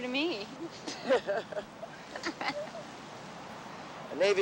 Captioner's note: everyone laughing